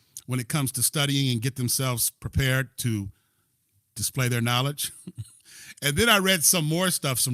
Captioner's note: laughter